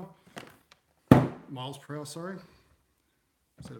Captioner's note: thump